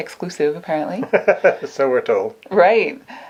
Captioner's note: laughs